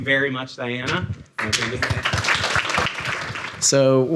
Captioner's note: audience applauding